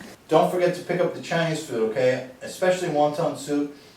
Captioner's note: none